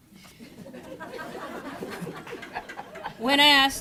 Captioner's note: crowd laughing